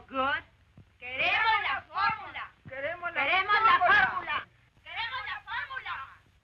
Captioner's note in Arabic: نساء يهتفن بالشعار باللغة الإسبانية